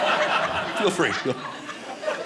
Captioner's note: audience laughing